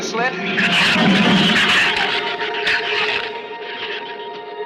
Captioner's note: shrews screech